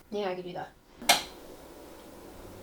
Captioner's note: light switch clicks on